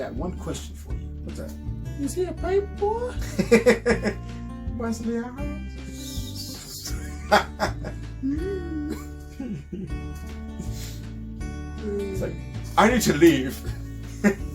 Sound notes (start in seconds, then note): 2.0 Imitating Herbert the pervert; 4.8 whistle